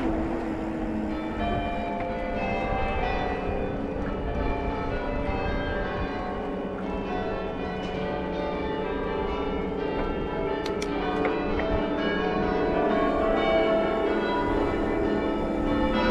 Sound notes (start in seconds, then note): 1.0 church bells ringing 🎶